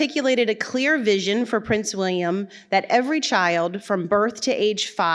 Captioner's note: none